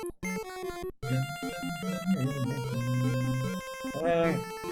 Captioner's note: humming along